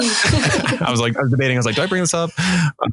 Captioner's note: everyone laughing